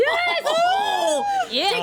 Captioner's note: woman cheers